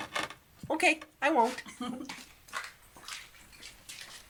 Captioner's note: laughs